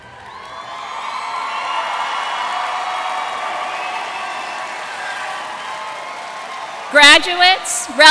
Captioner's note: cheers and applause